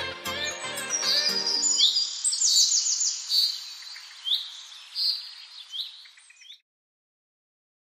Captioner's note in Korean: 새들의 지저귐